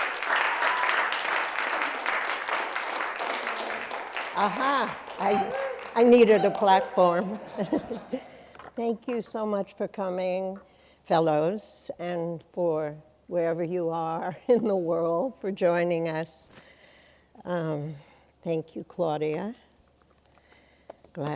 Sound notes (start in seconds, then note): 7.5 chuckles